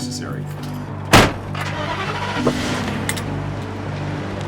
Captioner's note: truck starts